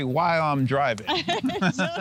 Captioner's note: laughs